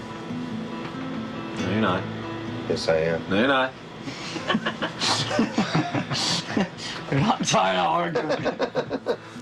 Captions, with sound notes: I'm tired of arguing. No, you're not. - yes, I am. - No, you're not. [band members laughing] "I'm not tired of arguing!"